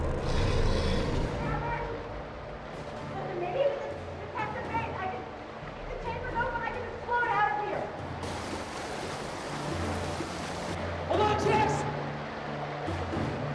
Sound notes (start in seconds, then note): 0.0 sphinx snarling; 8.0 water whooshing